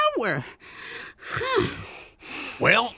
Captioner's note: sighs